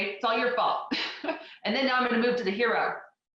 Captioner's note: laughs